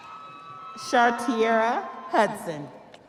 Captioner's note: audience cheering continues